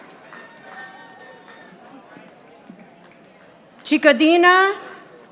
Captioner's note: audience applauding